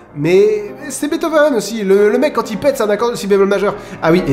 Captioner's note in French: none